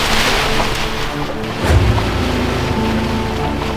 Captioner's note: water splashes